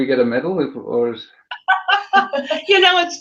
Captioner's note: laughter